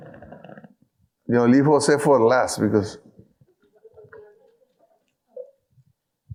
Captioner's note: speaking in foreign language